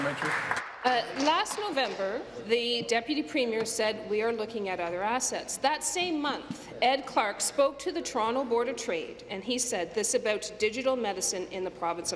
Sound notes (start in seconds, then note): 1.9 applause